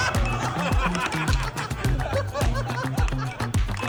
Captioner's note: laughter